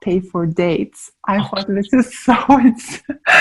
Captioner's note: laughs